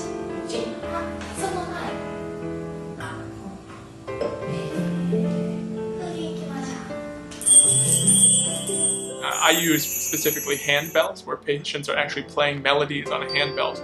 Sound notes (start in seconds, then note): 0.2 therapist speaks Japanese; 7.4 chimes